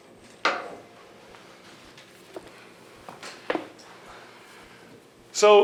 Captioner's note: oversized check banging